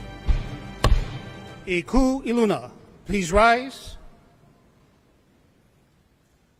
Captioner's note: gavel bangs twice